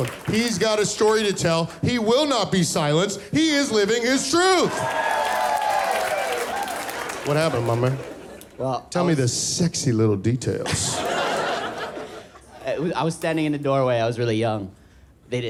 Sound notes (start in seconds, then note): 1.7 crowd screaming; 7.4 audience laughing